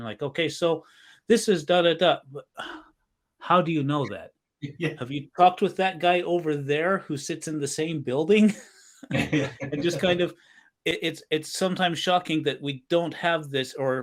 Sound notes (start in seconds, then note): 9.0 both laughing